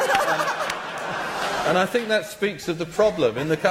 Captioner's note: laughter